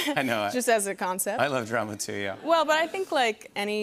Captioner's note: laughter